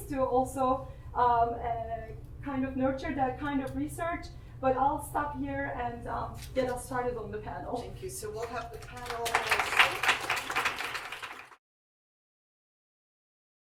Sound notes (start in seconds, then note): 11.4 crowd applauding